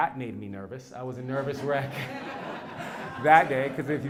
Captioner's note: laugh